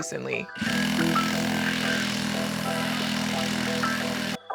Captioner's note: jigsaw whirring